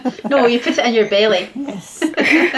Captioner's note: laughter